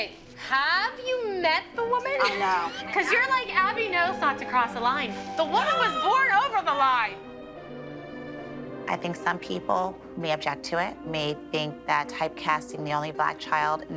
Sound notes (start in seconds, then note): 2.2 laughter